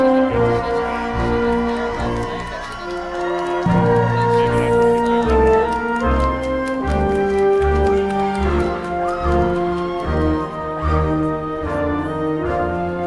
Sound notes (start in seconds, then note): 3.8 crowd cheering; 3.8 triumphant music continues